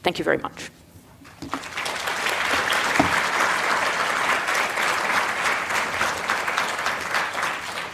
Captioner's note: applause